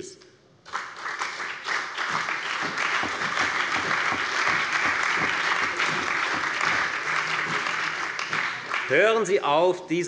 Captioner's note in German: Beifall bei der FDP, der CDU, der SPD und dem BÜNDNIS 90/DIE GRÜNEN